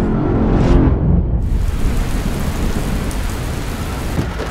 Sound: dramatic music; water dripping

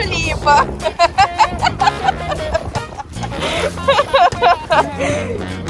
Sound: laughs

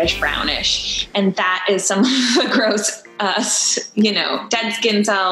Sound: laughing

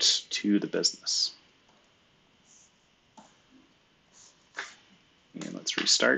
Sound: computer keyboard clicking

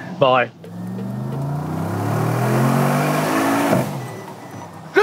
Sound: car engine racing

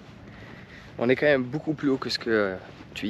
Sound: speaking in foreign language

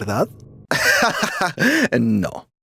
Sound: laughs

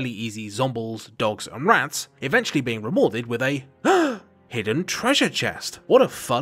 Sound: gasp

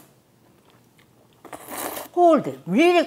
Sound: slurps

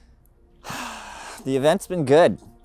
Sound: suspenseful music; sighs

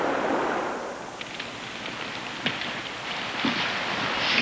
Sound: fire crackling; boots tromping

